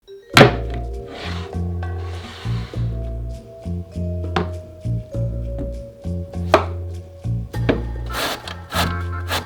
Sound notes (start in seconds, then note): 0.0 quirky music in background throughout video; 1.0 board sliding; 6.4 knife chopping; 8.1 zucchini grating